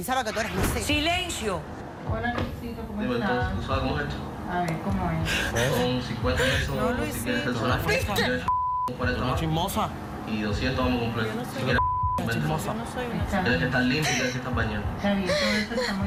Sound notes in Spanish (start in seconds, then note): 8.4 Bip; 11.7 Bip